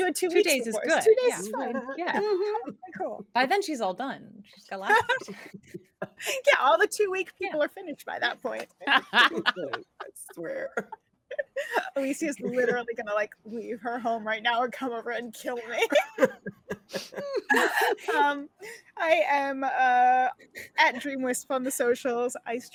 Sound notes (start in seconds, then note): 4.8 laughing; 8.2 laughing; 15.7 all laughing